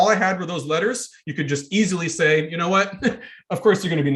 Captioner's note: chuckling